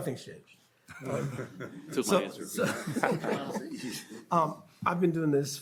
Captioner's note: panelists laughing